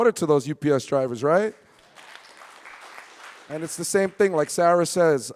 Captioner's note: audience clapping